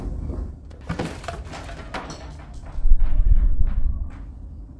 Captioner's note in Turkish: mobilya sesleri